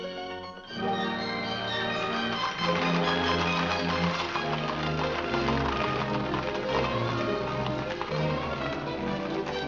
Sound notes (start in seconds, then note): 0.0 romantic music; 0.6 upbeat music; 2.0 hooves trotting; 2.5 upbeat music